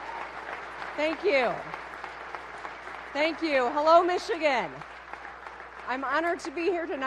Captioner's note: applause